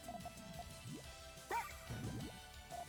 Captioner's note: cute attack sound